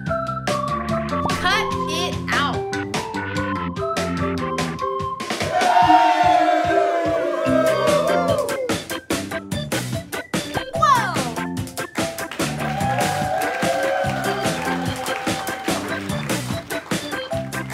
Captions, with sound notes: Cut it out! [cheers] Whoa! [applause]